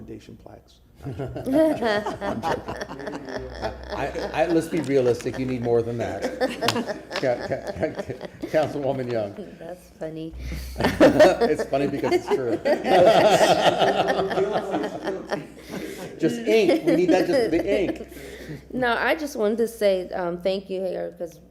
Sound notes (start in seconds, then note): 8.9 laughter; 18.2 laughter